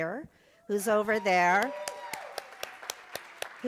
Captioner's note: cheering; applause